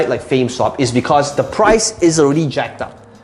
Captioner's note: air whooshing